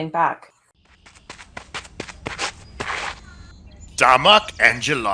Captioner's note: runner approaches